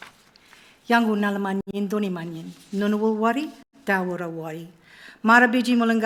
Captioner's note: speaking in Ngunnawal language